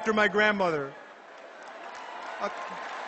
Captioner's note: cheers